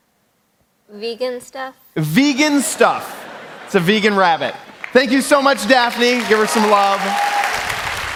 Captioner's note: applause